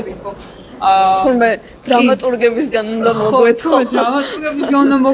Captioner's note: laugh